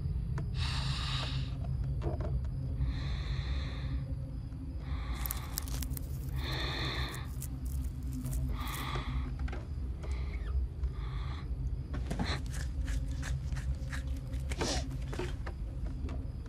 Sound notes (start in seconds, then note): 5.4 quiet chirping; 9.9 heavy breathing; 9.9 wood creaking